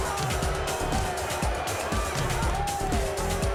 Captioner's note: crowd boos